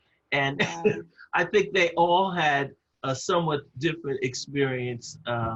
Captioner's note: laugh